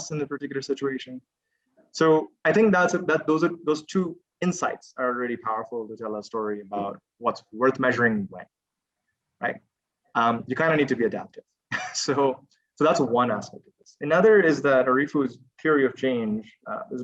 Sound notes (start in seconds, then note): 11.7 chuckles